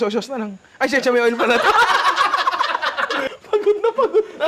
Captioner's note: laughter